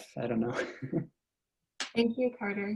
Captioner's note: laugh